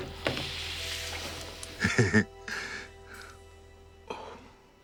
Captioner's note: laughing